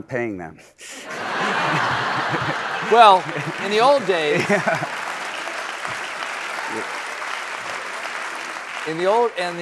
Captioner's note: laughter and applause